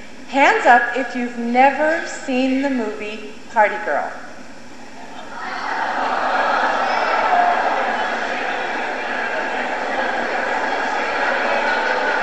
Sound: audience expression of disbelief at the hands raised

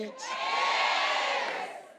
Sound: crowd

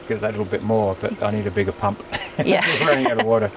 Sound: laughs

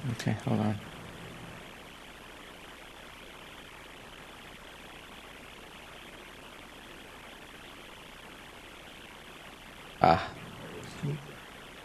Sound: no speaking

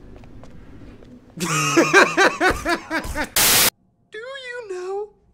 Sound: laughs

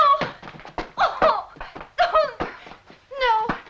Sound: Annette crying

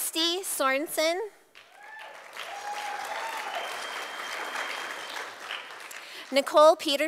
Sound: sound of applause from audience

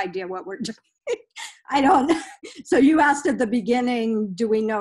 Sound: laughs

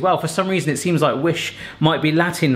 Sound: none

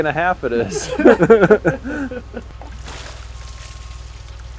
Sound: men laugh

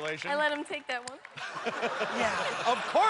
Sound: laughter

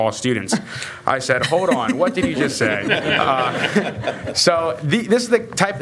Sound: laughter

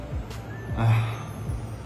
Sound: sighs

